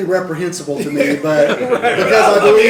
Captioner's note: laughter